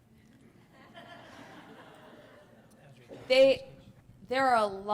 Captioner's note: laughter